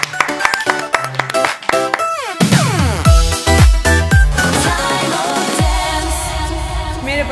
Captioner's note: applause